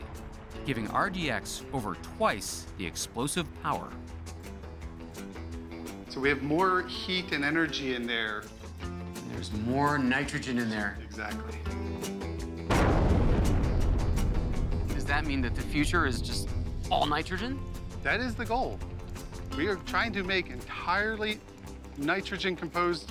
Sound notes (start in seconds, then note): 12.6 loud explosion